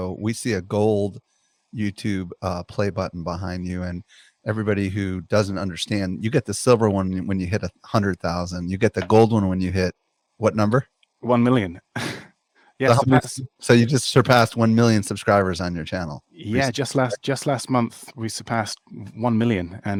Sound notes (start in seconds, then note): 11.5 chuckles